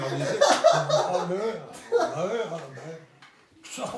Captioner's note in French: rires